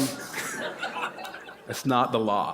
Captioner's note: laughter